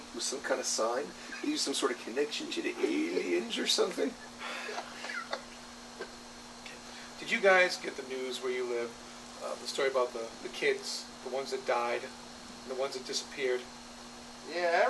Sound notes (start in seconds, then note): 4.1 Bob laughs. Charlie sighs